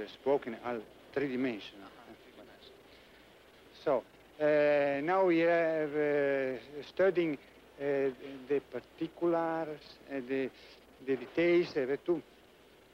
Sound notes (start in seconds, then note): none